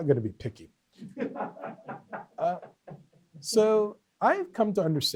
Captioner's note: off-mic laughter